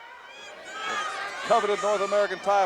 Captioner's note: audience jeering